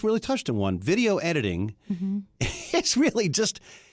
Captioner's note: laughs